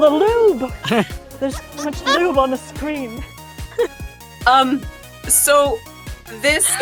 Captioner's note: EVERYONE giggles